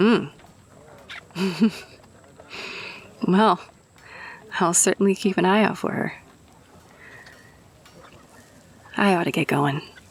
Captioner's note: laughs